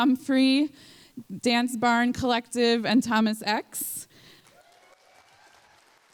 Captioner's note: applause